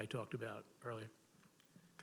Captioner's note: none